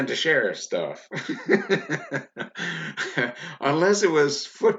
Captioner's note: laughs loudly